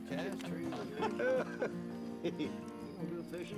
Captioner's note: men laughing